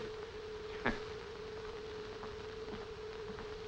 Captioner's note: scoff